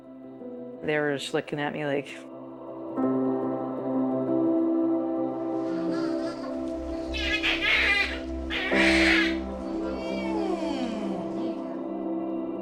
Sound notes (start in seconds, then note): 6.5 baby crying